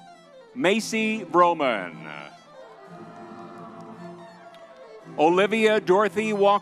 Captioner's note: crowd cheering